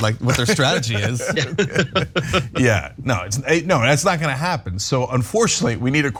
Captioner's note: laugh